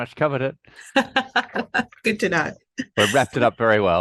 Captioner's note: laughing